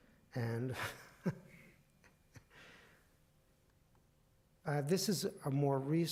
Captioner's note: chuckles